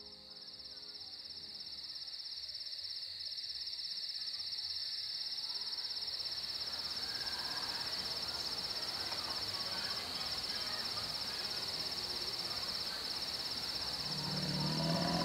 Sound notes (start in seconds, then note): 10.3 crickets and birds calling